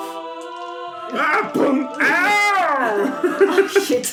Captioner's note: hitting noise